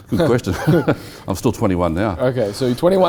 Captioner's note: laughs